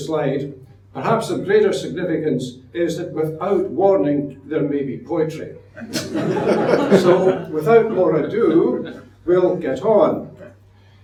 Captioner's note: audience laughs